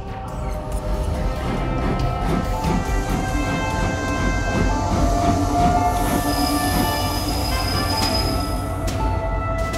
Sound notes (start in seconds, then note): 0.3 steam engines chuffing; 5.9 squealing brake sounds